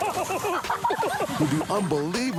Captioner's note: laughter